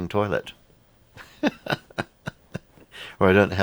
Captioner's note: laughs